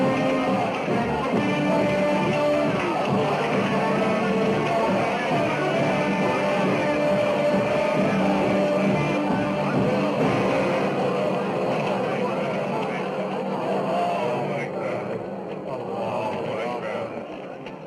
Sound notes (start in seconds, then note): 9.4 indistinct shouting; 11.9 dramatic music